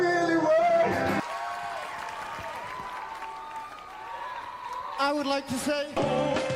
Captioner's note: applause